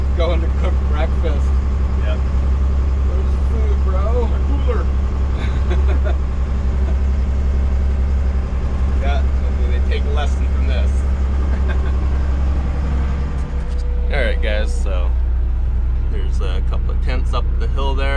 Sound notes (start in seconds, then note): 5.3 laughing